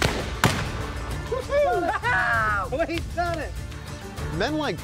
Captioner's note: cheering